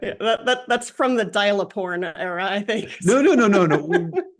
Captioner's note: laugh